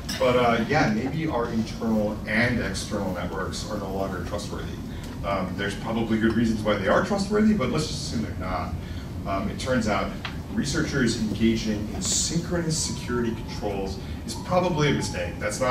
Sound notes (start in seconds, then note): none